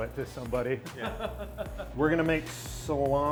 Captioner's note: laughing